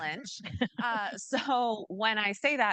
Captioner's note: chuckling